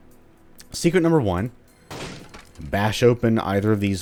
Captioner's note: smash